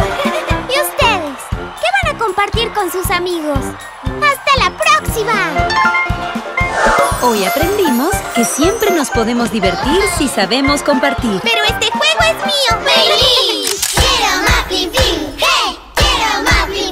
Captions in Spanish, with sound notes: Y ustedes ¿Qué van a compartir con sus amigos?? ¡Hasta la próxima! Hoy aprendimos que siempre nos podemos divertir si sabemos compartir. Pero este juego es mío. ¡Mei-Li! (Risas)